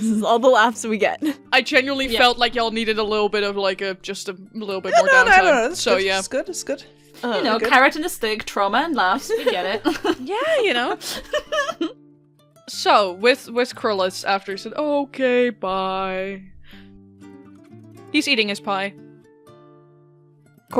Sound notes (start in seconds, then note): 11.8 laughter